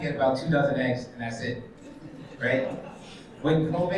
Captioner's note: attendees chuckles